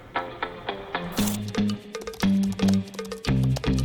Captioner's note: paper tearing; text typing